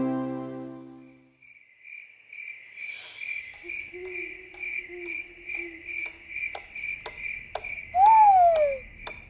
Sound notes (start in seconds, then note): 3.4 clock ticks; 3.4 crickets chirp; 3.4 owl hoots